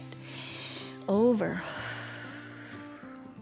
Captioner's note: exhales